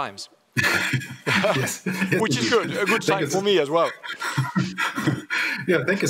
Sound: laughs

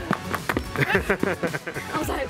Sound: loud tapping; people laughing

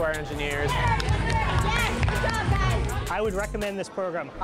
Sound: cheering

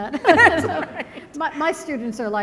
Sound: laughter

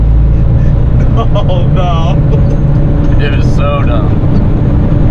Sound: laughter

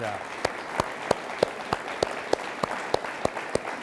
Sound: all applauding

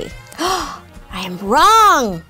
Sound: gasping

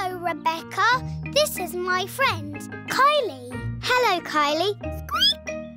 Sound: squeaks

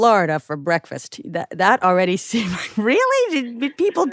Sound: chuckles

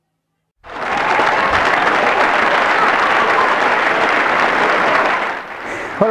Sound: applause is heard

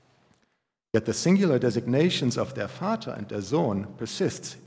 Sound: german

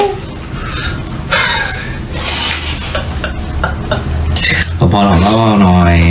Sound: suddenly burst out laughing

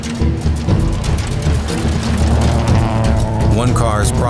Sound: engine roaring

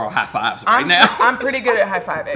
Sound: laughs

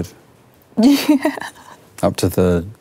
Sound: laughs

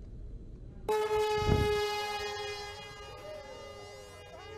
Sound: loud drone sound

